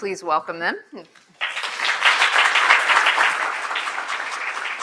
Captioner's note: attendees applauding